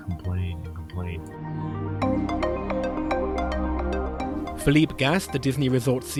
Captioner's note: voiceover